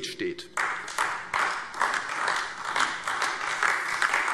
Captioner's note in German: Beifall AfD